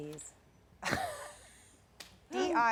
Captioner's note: laughs